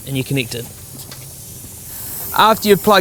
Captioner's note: air hissing